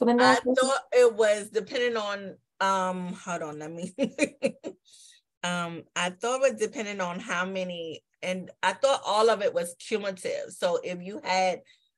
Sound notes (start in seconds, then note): 3.8 laughter